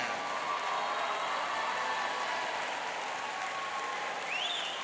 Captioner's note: cheering and applauding